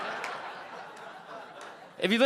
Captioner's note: audience laughing